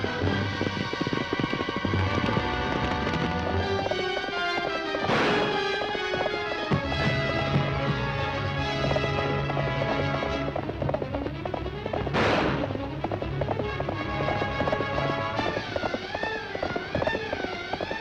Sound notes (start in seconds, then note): 0.7 upbeat dramatic music; 5.0 gun firing; 7.5 upbeat dramatic music; 12.0 gun firing; 14.6 upbeat dramatic music